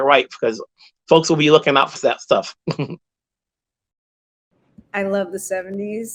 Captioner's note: giggles